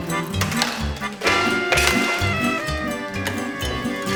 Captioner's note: liquid pouring; clattering